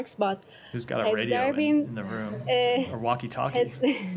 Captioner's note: laughter